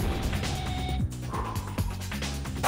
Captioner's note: deeply exhales